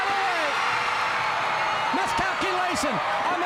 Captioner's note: crowd cheering